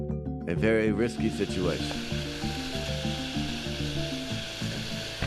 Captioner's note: water hissing; dramatic music continues